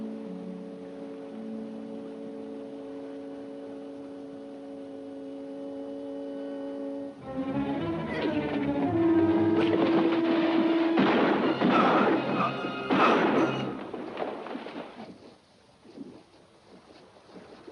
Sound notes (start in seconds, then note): 7.2 música emocionante; 10.7 golpes de arma